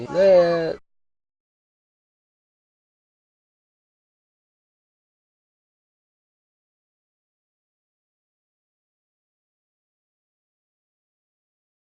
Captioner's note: silence